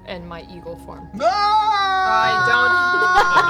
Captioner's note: screams as though falling